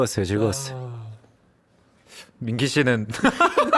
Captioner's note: awkward silence immediately follows